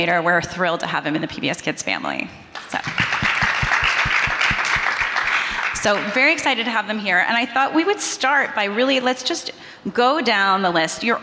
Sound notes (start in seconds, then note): 2.6 audience applauding